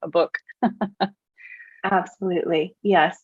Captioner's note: laughs